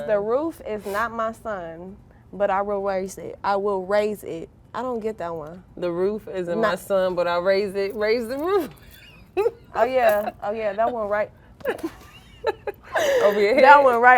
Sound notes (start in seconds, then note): 8.8 laughing; 11.6 girls laughing